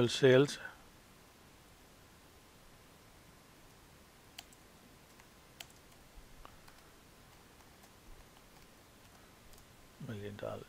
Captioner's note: clicking